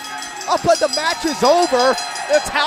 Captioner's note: bell ringing